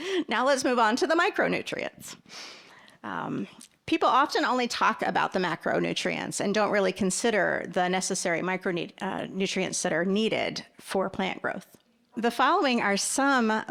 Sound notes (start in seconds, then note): none